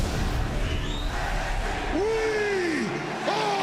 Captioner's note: crowd cheering